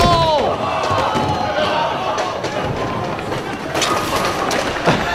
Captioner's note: bowling balls rolling